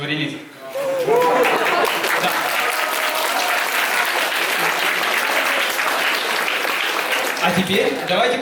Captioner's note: applause